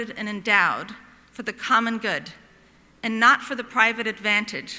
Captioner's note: none